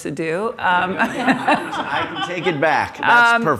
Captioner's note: laugh